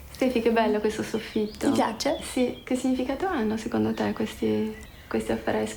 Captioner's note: speaks in foreign language